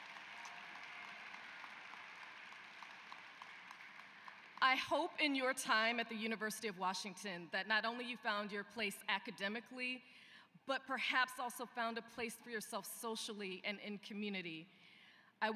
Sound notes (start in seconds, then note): 4.1 applause